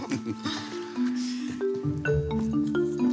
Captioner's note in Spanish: risas